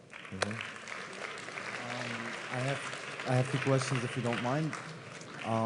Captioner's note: applause